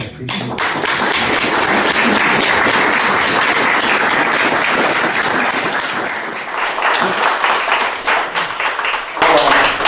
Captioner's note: applause